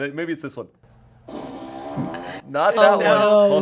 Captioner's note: fart machine farts